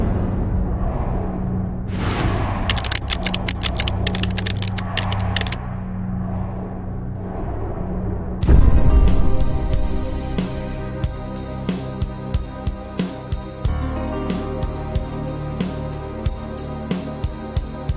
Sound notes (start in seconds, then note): 2.7 keys tapping; 9.0 suspenseful music